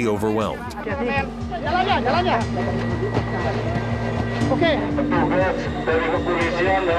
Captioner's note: non-English speech